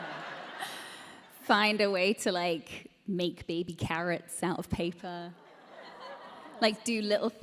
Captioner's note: laughter; audience: "Aww"